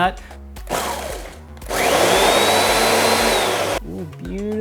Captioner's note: appliance whirring